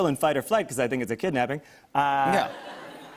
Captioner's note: laughter